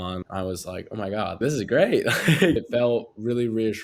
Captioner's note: laughs